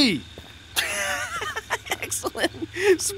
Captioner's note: laughing